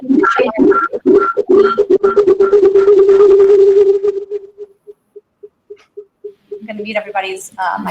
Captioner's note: beeping and feedback